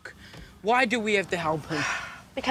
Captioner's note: sighs